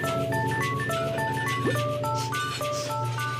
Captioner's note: sniffs